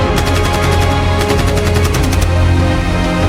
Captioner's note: gun rapid firing